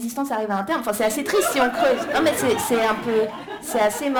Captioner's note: laughter